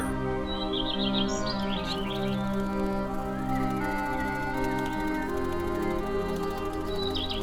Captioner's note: birds chirping